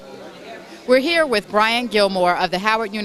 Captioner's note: background crowd